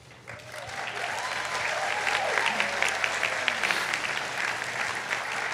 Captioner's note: attendees applauding